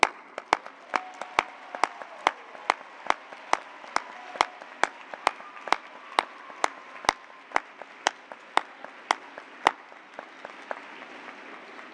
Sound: cheers and applause

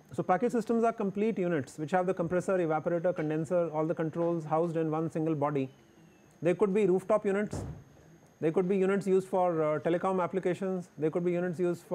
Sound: window air conditioner

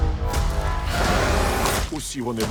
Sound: roars

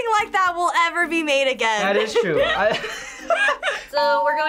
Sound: laughs

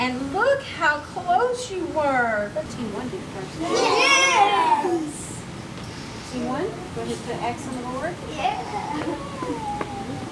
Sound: students cheer

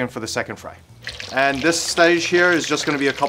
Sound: oil sizzling

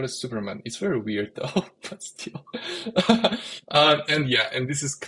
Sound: laughs

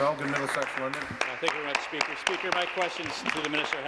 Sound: applause

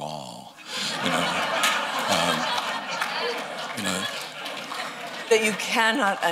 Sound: laughter

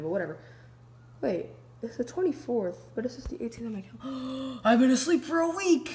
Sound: gasp

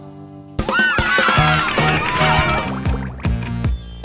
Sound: cheering

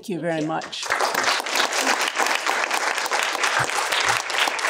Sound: applause

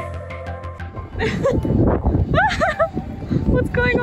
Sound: laugh

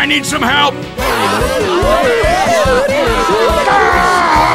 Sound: oktoberfest noises

